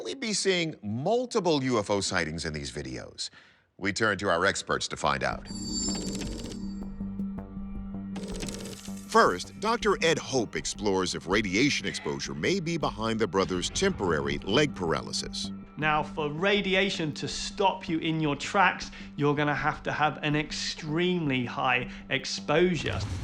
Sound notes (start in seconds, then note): 5.4 slow dramatic music; 5.4 text whirring